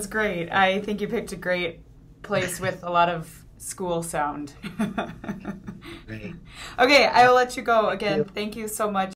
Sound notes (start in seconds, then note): 4.6 chuckles